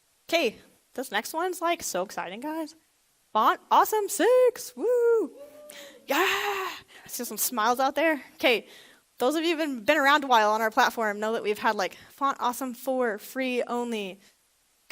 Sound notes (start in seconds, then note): 4.7 lone audience member cheers